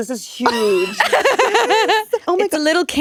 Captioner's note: laughing